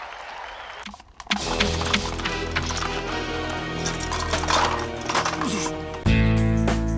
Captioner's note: audience cheering; device crackling; sinister music; upbeat music